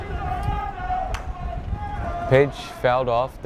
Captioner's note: bat cracks